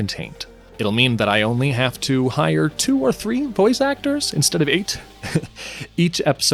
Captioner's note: chuckles